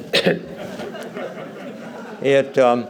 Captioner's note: laughter